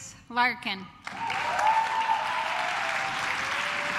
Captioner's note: claps